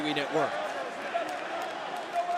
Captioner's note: crowd cheering